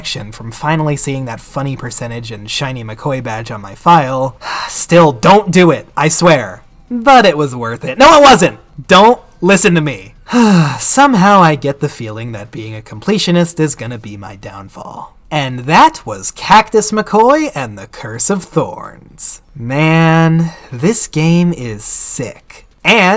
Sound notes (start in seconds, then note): 10.2 sigh